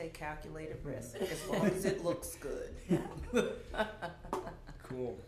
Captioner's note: laughter